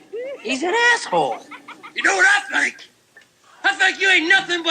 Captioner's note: laugh